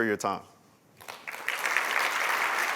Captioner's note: applause